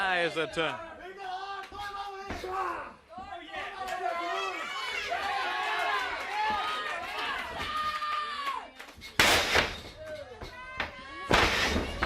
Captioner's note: crowd chatter